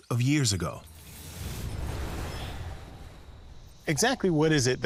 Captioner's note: whooshing